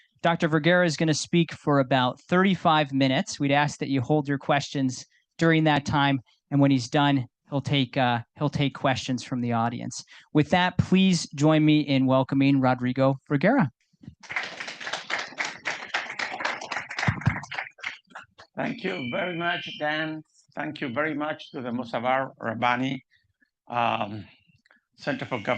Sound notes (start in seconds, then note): 14.2 audience applauding